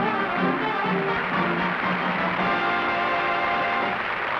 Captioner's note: applause